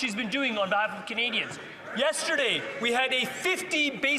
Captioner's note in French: voix de l'interprète